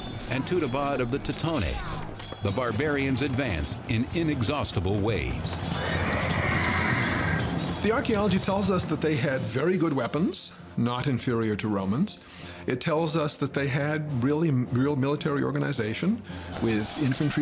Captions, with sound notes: of the Teutones, the barbarians advance in inexhaustible waves. [horse neighing] The archeology tells us that they had very good weapons, not inferior to Romans. It tells us that they had really-- real military organization with infantry troops,